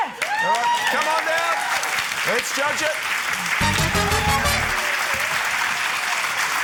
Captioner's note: cheering, applause